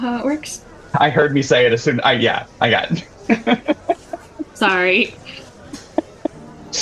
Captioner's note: laughter